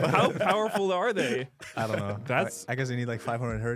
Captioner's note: laughs